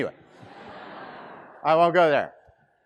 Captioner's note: students laughing